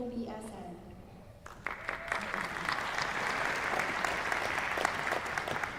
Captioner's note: applause